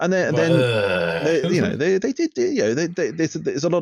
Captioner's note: sound of utter disgust